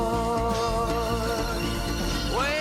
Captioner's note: metal clanging